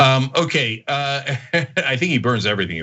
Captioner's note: laugh